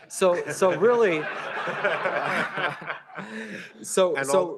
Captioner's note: laughter